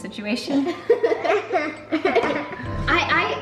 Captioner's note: children laugh